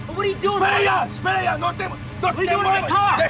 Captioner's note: speaking spanish